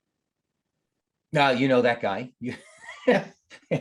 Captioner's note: chuckles